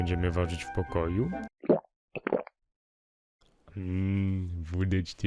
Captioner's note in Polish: Odgłosy chlania